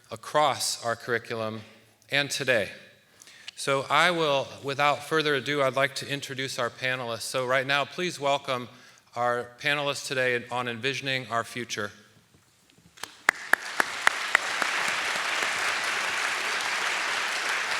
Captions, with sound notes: across our curriculum and today. So without further ado, I'd like to introduce our panelists. So right now, please welcome our panelists today on "Envisioning Our Future." (audience applauding)